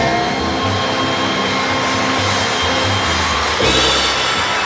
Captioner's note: audience cheers